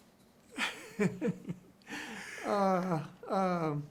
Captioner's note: both chuckling